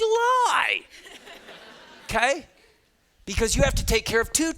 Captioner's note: students laughing